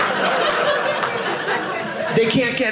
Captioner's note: audience laughing